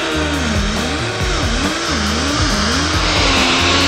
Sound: upbeat music; metal screeching

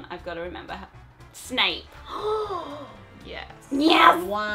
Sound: gasps

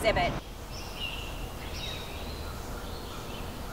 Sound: birds chirping

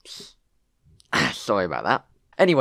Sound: ahem

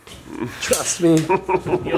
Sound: groans

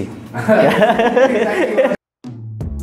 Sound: laughs

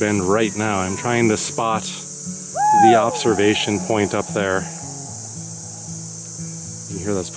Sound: person shouting and echoes

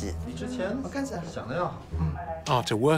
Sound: speaking Tibetan

